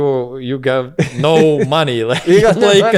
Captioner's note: laughs